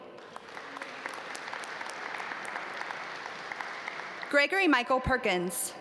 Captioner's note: audience applaud